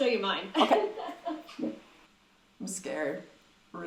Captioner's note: laughs